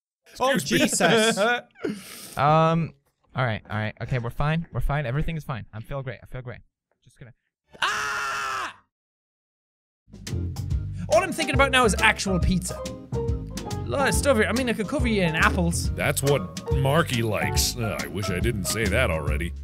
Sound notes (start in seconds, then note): 0.5 Jacksepticeye laughing